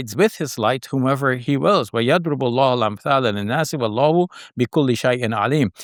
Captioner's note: speaks in Arabic